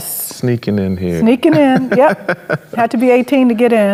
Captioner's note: chuckles